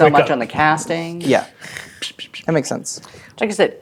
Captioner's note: imitating slapping sounds